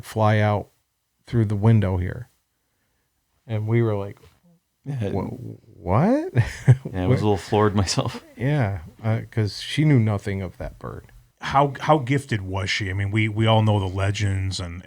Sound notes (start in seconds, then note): 6.5 laughs